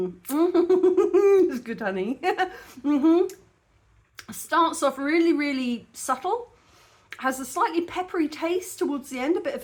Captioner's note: happy mouth noises and laughing; laughing